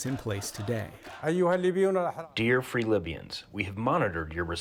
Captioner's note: through translator